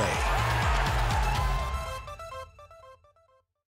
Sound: crowd cheering

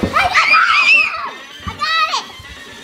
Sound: screams

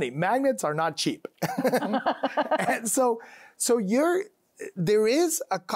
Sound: both laughing

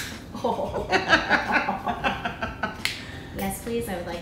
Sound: women laughing

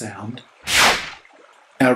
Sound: swish

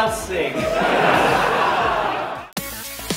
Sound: laughter

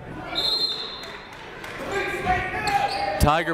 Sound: whistle

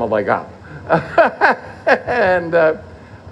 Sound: laughter

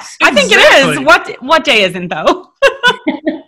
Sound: laughing

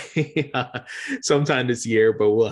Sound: laughing

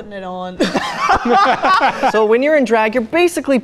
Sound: everyone laughs

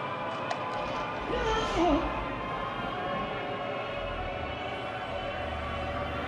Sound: cracking; exclaiming

